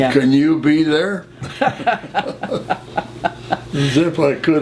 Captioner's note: laughter